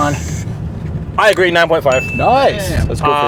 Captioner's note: bell dinging